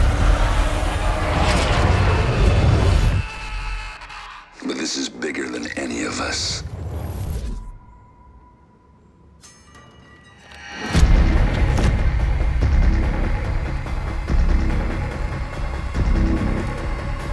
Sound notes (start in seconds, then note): 3.5 shouting; 9.5 metal sound